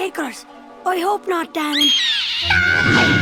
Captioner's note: seagull screeches